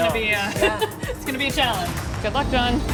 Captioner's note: laughter